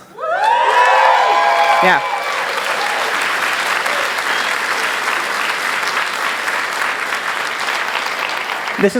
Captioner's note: loud cheering